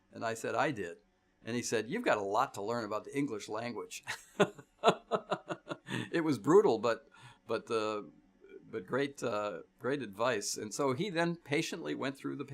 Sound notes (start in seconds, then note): 4.8 laughs